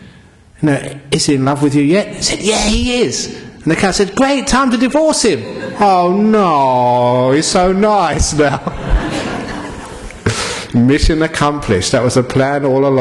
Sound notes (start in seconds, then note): 8.2 laughter